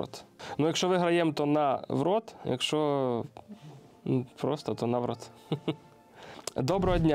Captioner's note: laughs